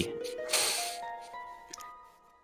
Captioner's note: inhales